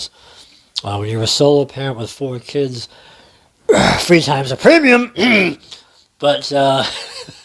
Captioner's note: clears throat; laughs